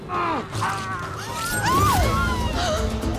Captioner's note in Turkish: Çığlık sesleri